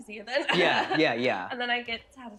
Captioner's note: laughs